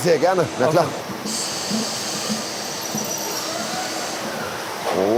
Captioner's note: hissing noises